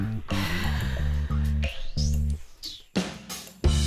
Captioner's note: sighs; upbeat music